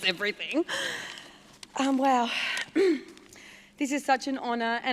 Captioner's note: clears throat